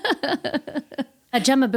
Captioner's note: laughing